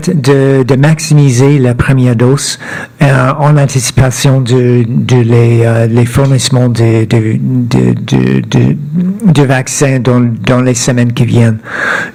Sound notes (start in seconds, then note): 1.1 speaking French